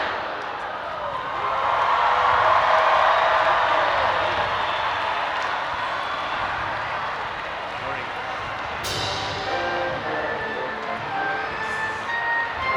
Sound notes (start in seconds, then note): 0.8 audience applauding and cheering; 8.8 upbeat orchestra music